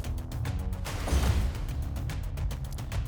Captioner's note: thump; whoosh